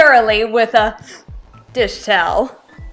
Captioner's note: gasps